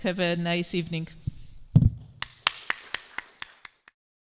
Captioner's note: clapping